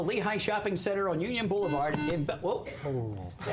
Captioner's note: buzzer